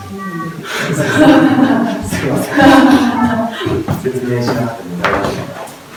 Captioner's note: laughs